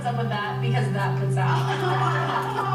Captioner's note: laughing